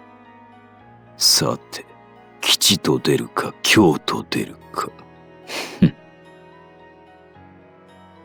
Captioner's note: chuckle